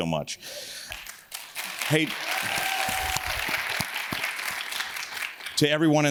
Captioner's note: audience cheers and claps